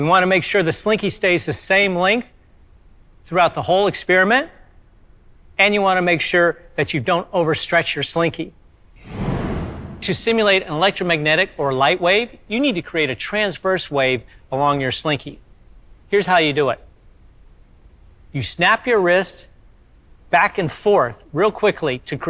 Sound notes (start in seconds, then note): 9.0 air whooshing